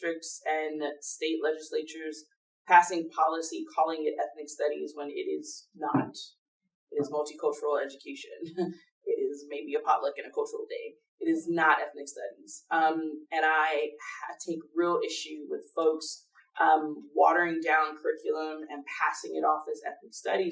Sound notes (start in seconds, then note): none